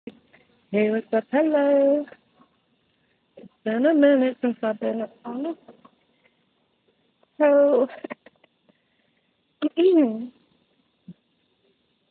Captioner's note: hehehe